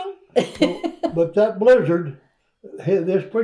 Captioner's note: laughs